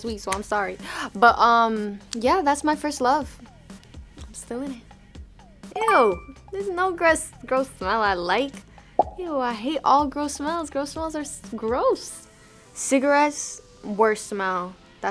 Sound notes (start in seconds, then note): 5.8 bell chiming